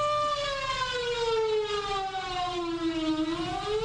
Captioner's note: loud siren